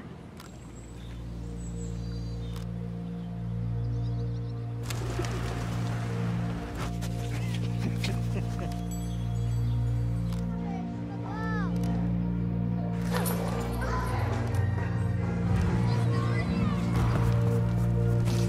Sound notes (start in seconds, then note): 0.0 camera shutter clicking; 0.0 waves crashing; 0.3 camera shutter clicking; 0.3 water pattering; 2.1 birds chirping; 2.1 camera shutter clicking; 4.8 wings fluttering; 6.9 dogs sniffing; 7.3 person laughing; 8.5 bells tinkling; 8.5 camera shutter clicking